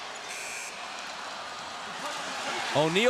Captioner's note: buzzer